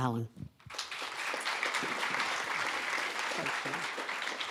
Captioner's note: audience applauds